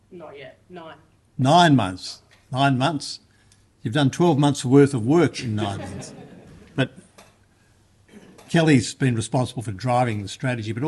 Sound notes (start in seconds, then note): 5.4 laughter